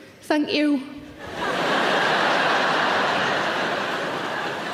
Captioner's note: laughing